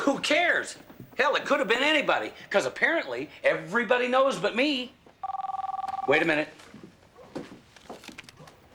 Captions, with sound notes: Who cares? Hell, it could've been anybody. 'Cause apparently, everybody knows but me. (phone ringing) Wait a minute.